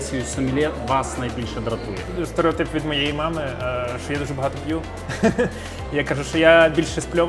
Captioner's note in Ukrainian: сміх